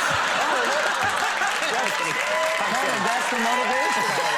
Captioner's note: audience laughing